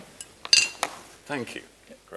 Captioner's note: glass clinking